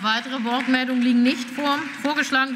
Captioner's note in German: Beifall